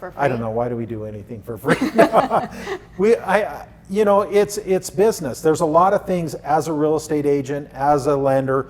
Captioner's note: laughter